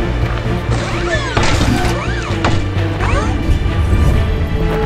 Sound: hydraulic whirring

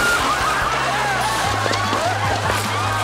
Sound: splashes; crowd laughing

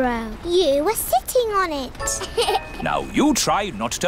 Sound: laughs

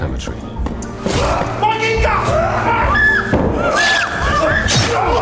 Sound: people yelling

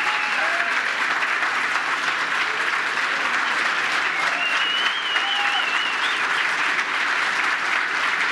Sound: applause

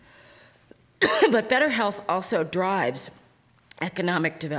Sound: coughing

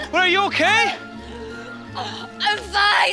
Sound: dee gasps

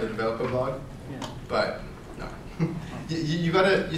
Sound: laughs

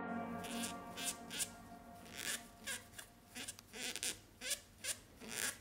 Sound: tool scraping and squeaking

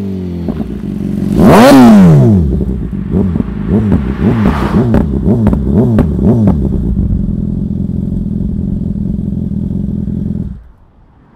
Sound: s1000r downshifting; s1000r exhaust note

